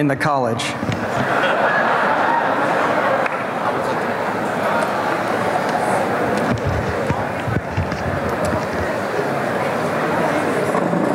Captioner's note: background chatter